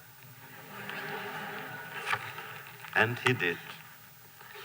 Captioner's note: laughter